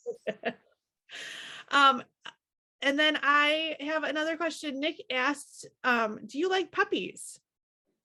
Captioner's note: laughing